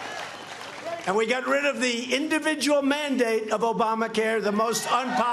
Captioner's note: cheers and applause